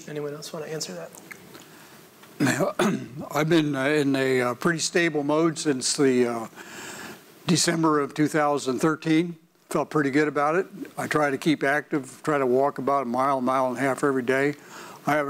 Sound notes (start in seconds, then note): 2.4 clears his throat